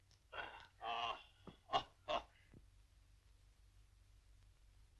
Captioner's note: laughing